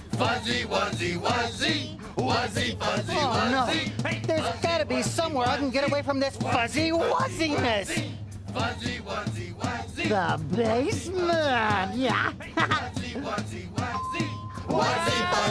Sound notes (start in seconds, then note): 11.9 chuckles; 13.8 elevator bell dings; 14.1 singing